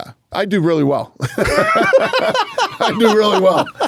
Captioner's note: both laughing